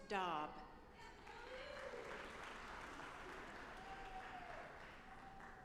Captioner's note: audience applauding